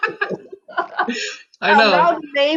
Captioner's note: laughs